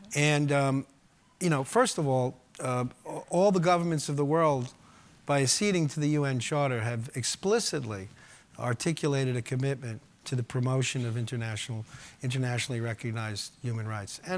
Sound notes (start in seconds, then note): none